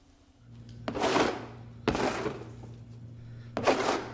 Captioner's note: scraping